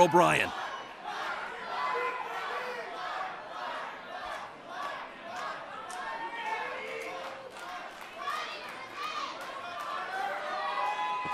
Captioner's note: crowd cheering